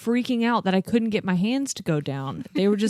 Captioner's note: laughs